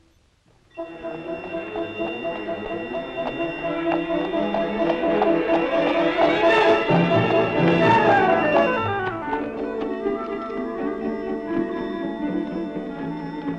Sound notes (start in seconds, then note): 0.6 bells ringing; 0.6 upbeat music